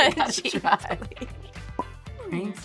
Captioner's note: laughing